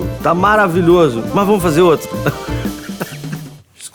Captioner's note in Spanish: risas